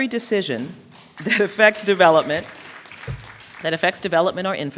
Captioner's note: applause